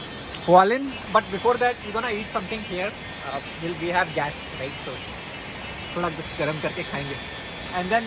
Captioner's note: in hindi